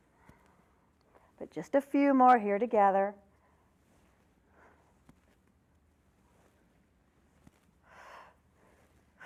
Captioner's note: breath sound